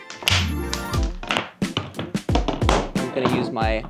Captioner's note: wood thudding